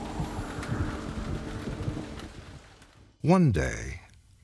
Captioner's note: wind whooshing; rain splashing